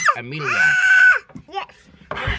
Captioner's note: scream